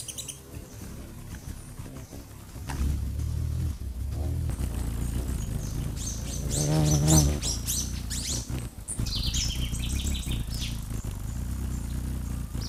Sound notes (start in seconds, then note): 1.0 birds chirping; 1.0 buzzing; 4.5 bird's wing flapping; 4.5 birds chirping